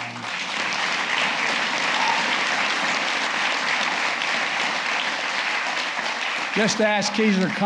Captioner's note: applause